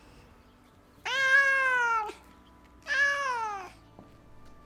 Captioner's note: angel noises